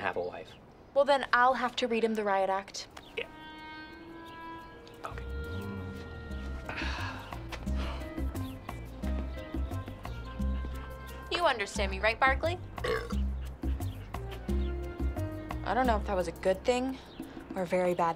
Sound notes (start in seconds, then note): 5.7 mellow music; 12.8 burps